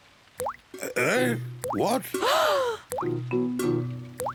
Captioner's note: oinks; all gasp